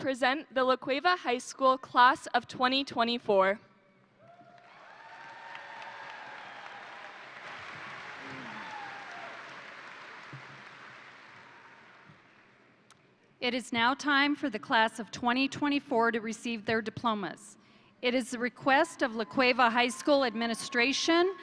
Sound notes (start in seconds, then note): 4.2 crowd cheering; 4.4 crowd applauding